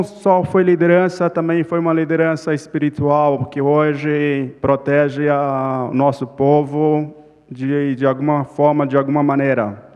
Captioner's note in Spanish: Ponente habla en portugués